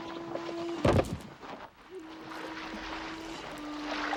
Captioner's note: boxes thudding; water splashing